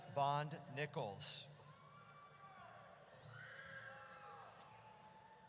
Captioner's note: audience cheers